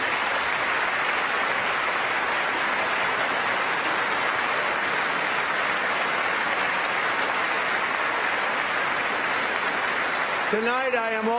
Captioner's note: applause